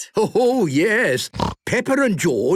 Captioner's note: laughter; snorting